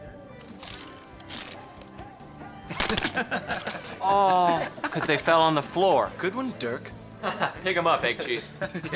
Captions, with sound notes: -[jocks laughing] -Aw. 'Cause they fell on the floor. -Good one, Dirk. -[chuckles] Pick them up, egg-cheese.